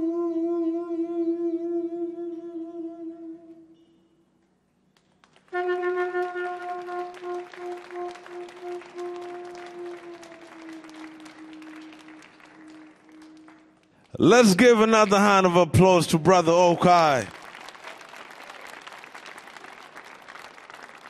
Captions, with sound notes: [audience clapping] - Let's give another hand of applause to brother Ochi. [audience clapping]